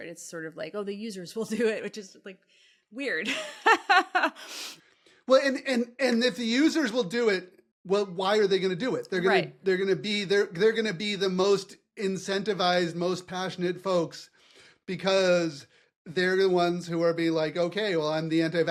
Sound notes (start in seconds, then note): 3.2 laugh